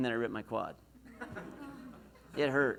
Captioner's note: laughs